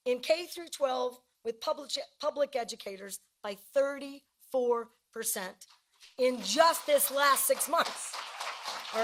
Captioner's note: cheering and applause